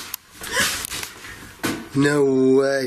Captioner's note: gasps